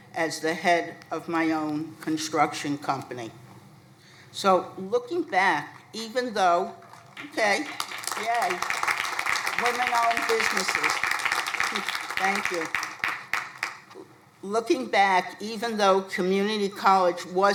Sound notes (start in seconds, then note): 9.4 crowd applauding